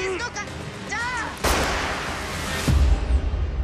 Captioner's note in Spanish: Disparo